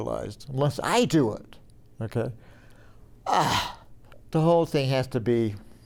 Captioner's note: groans